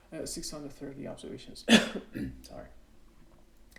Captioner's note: cough